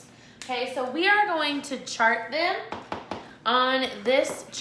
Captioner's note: knuckle taps